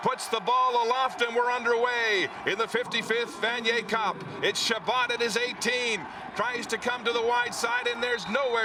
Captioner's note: cheering and Applause